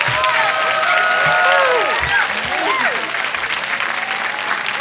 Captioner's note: audience cheering